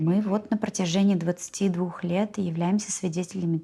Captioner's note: speaking Russian